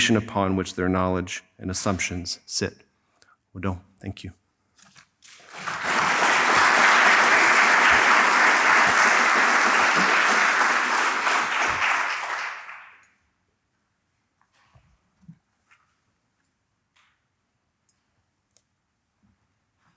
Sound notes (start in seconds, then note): 5.2 applause